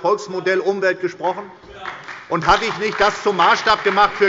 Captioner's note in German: Beifall bei der SPD und der FDP